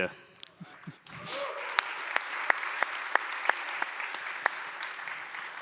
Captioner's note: applause